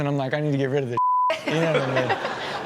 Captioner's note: beep; hosts and audience laugh